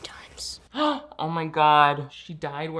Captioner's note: gasps